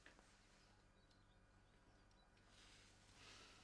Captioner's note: birds chirping